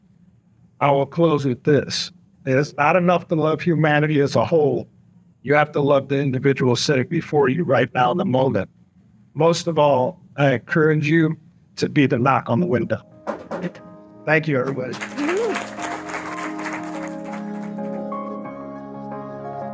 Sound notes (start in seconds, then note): 13.2 knocking noise; 14.6 applause